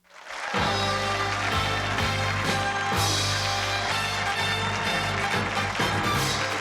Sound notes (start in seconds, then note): 0.0 applause